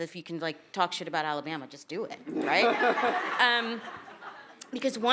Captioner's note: attendees laughing